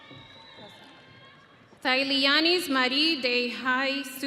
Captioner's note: audience cheering